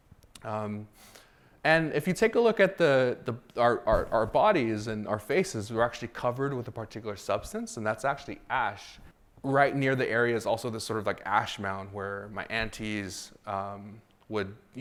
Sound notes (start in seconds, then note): none